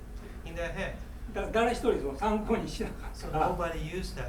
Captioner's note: speaking in foreign language